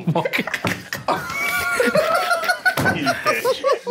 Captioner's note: group laughing